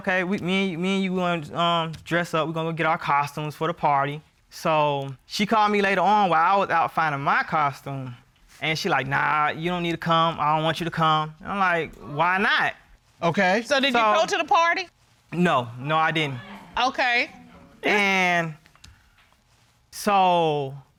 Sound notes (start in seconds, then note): 12.4 woman exclaims